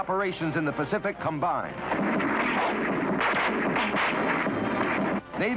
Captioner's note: guns firing